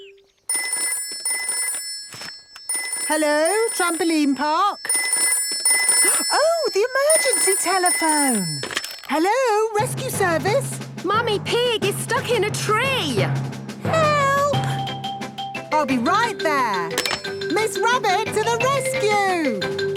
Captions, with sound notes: (phone ringing) - Hello, Trampoline Park. (phone ringing) Oh, the emergency telephone! Hello, Rescue Service. - Mummy Pig is stuck in a tree. - Help! - I'll be right there. Miss Rabbit to the Rescue!